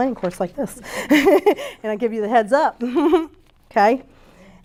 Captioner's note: laughs